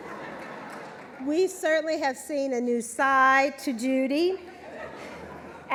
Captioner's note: laughter